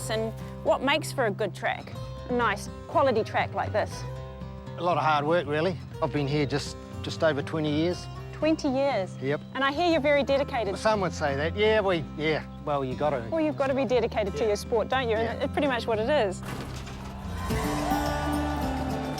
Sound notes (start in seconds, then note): 16.4 starting gates clang; 17.1 spectators cheer